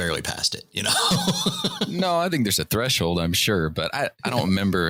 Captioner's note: laughter